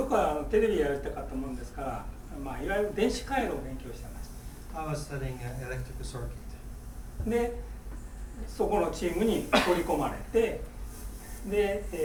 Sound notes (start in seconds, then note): 0.1 speaking in foreign language; 7.4 speaking in foreign language; 9.5 coughing